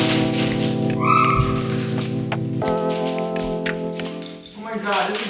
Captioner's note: lights clanking; shrieks